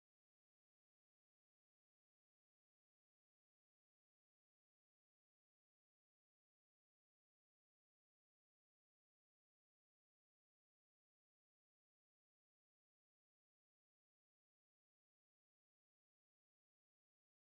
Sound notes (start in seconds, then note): none